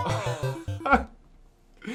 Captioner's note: laughs